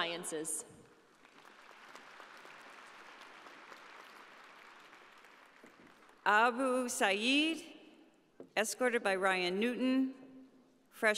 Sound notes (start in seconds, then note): 1.1 audience applauding